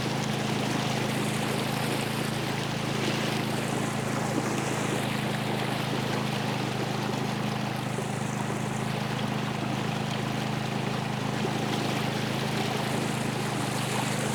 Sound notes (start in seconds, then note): 6.5 boat motor humming; 6.5 water sloshing